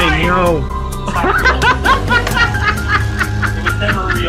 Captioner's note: friends laughing